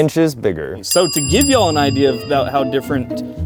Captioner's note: beeping